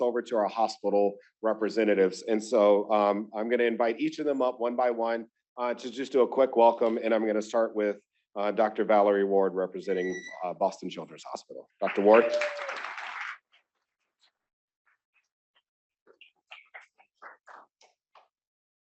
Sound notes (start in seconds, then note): 11.8 applause